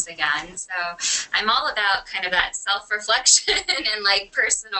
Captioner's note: laughs